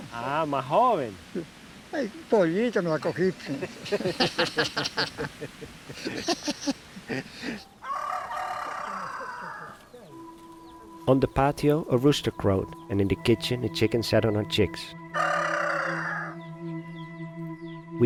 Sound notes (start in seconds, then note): 7.8 rooster crowing; 10.1 pensive music; 15.0 rooster crowing